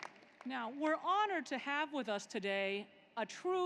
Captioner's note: applause